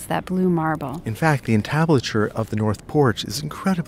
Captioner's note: voiceover